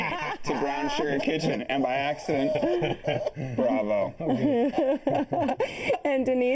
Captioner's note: laughter